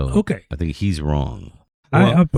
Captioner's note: uh